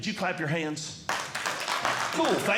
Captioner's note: audience Clapping